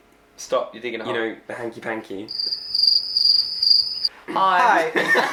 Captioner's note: crickets chirping; laughing